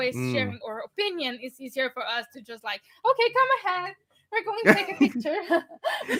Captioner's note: laughing